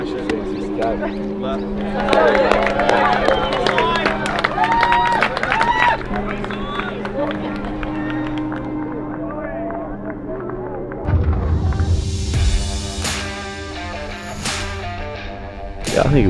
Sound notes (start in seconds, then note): 2.9 crowd cheers; 12.6 guitar music